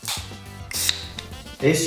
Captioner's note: hissing sound